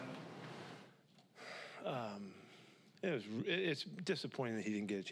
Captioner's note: sighs